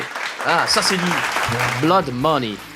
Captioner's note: applause